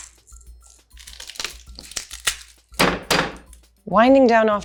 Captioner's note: knife banging